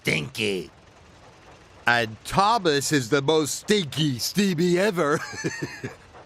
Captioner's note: laugh